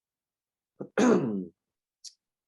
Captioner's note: clears throat